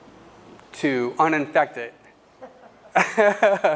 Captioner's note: laugh